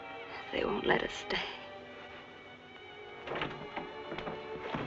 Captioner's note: door rattling